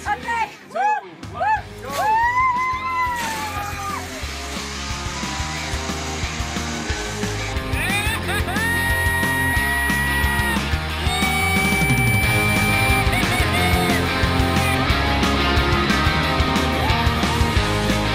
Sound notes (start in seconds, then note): 5.0 woman shrieks; 11.0 man shrieks